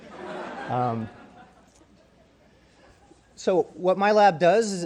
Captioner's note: crowd laughs